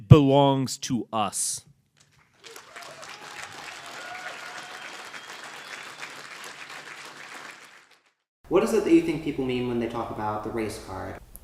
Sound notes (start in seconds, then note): 2.1 applause